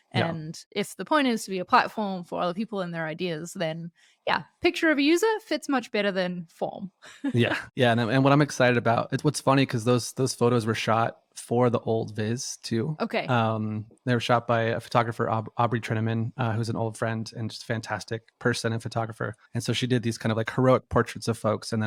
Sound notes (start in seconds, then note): 7.3 laughs